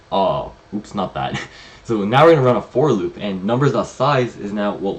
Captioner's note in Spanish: risas